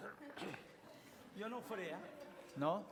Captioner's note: non-english speech